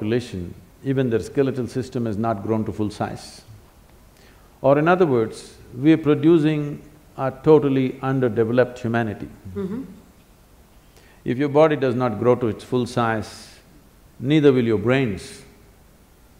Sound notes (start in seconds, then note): none